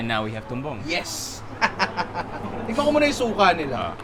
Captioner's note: laughs